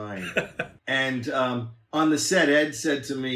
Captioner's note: laughs